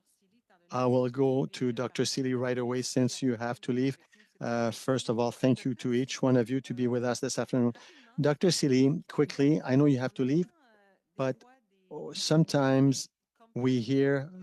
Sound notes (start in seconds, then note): 7.2 speaking French